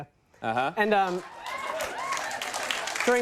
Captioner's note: audience applauds